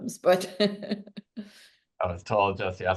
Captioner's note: laughs